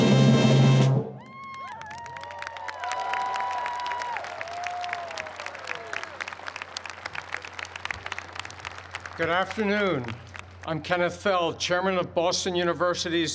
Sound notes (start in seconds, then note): 1.2 cheers and applause